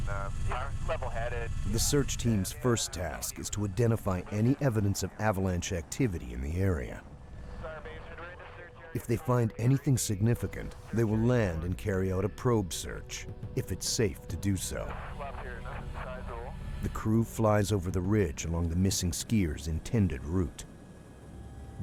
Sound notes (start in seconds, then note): 8.6 voiceover; 12.2 voiceover